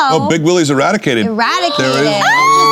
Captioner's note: cheering